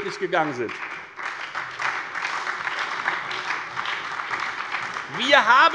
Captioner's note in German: Beifall bei der FDP und der SPD